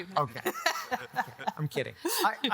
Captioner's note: all laughing